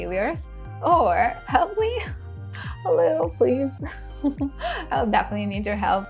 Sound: giggles

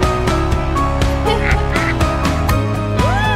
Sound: mom Cackles

